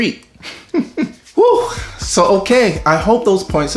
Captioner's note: laughs; sighs